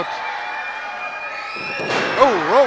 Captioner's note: audience screams; thud